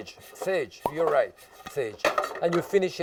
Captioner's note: cork popping